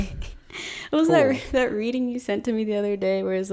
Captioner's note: chuckles